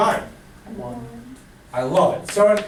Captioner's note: voiceover